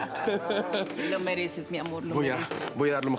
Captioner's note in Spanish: Risas